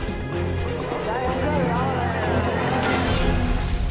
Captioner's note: cheers and applause